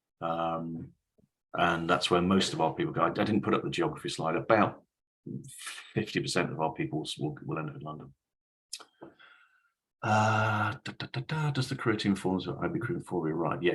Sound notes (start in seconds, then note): 10.7 hums in gibberish